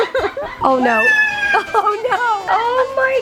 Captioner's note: laughter; screeching